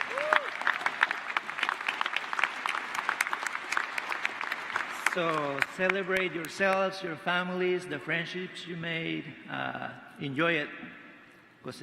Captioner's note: applause